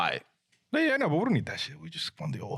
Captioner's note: speaking In Foreign Language